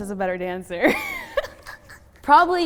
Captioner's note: laughs